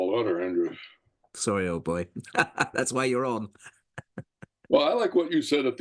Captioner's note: laugh